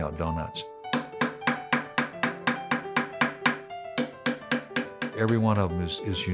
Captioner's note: hammering